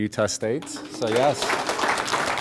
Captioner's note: applause